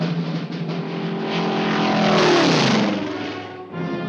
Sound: airplane roars

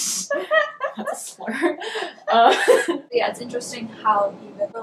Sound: laughing

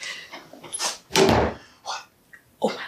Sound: door slams

